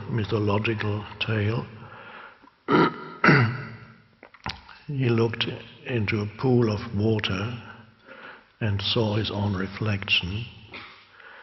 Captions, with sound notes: mythological tale, (clearing throat) he looked into a pool of water and saw his own reflection.